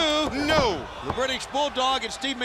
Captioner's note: crowd chatter